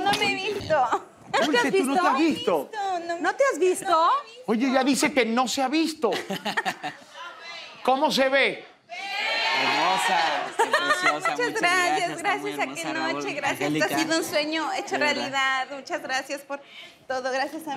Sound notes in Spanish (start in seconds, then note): 8.5 Ovación; 10.5 Risas